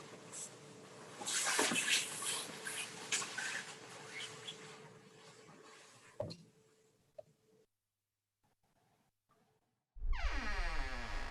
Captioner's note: door creaking